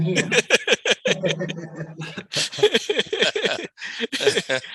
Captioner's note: panel laughs